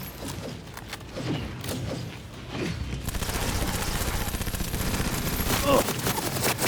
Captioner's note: grunts